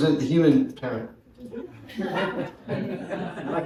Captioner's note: laughter